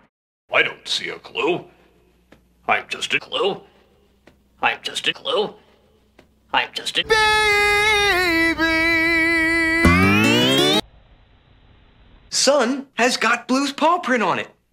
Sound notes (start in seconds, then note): 3.1 higher pitch; 9.8 audio speeds up